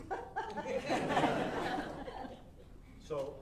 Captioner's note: audience laughing